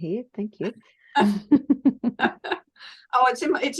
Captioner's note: people laugh